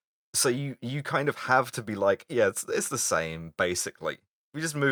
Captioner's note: lying voice